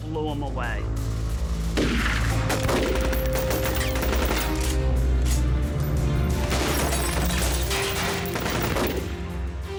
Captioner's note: gun shots